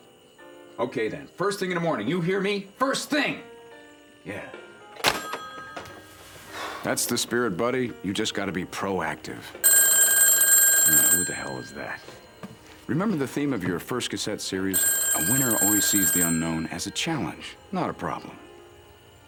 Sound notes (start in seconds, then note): 9.6 phone ringing